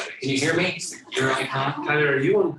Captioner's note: becomes muffled